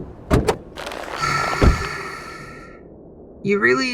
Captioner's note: Smoke sighs, tired